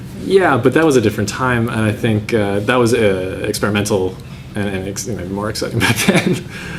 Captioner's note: laughs